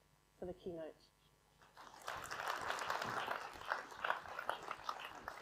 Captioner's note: applause